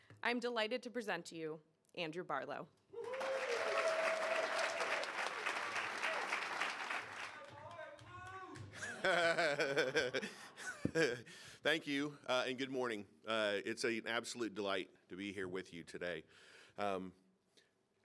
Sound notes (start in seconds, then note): 3.0 audience applauding; 7.7 audience member shouting; 8.7 laughing